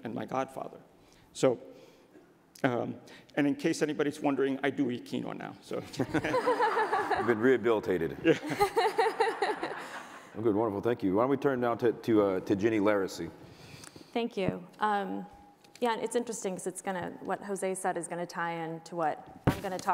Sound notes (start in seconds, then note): 6.2 audience laughter